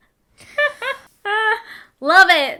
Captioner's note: laughing